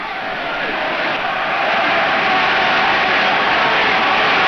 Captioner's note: crowd cheers